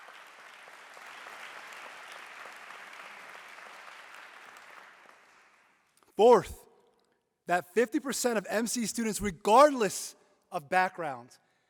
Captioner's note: applause